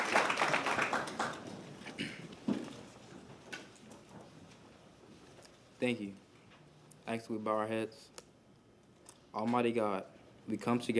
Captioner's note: applause